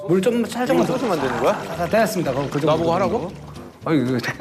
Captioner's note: pouring